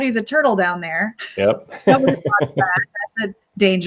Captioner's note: laughs